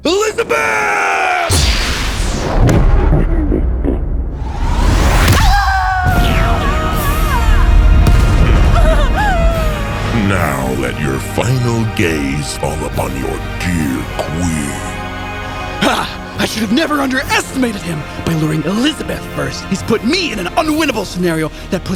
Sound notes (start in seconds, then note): 5.4 screaming Painfully; 8.5 elizabeth groaning